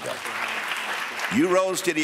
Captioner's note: audience applauds